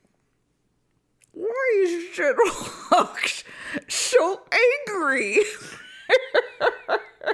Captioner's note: laughs